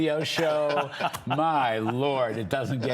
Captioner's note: laughter